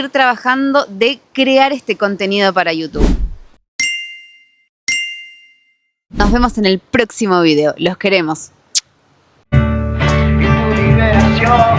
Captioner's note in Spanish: campana